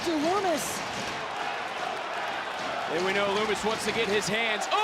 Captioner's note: audience cheering